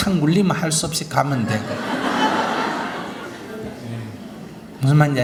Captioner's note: audience Laughter